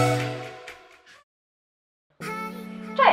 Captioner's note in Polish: cisza